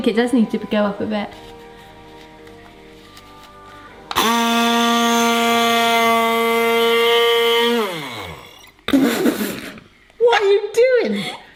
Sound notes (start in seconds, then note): 4.1 loud buzzing noise